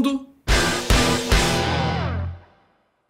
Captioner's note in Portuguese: som de destaque